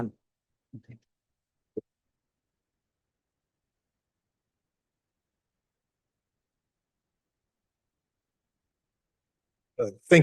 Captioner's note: silence